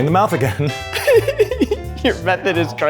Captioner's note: laughs